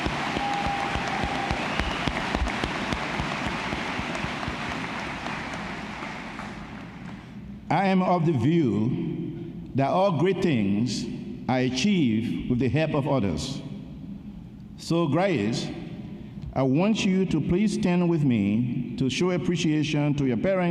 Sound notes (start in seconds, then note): 0.0 applause